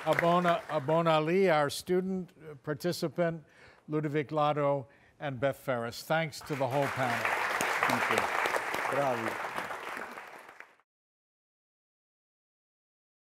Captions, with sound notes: Habon Ali our student participant, Ludovic Lado and Beth Ferris thanks to the whole panel. - Thank you. (audience clapping) - Bravia.